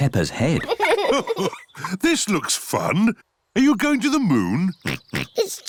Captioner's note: chuckles; oinks